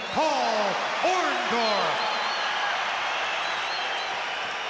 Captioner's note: crowd cheers